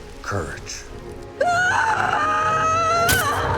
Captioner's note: screaming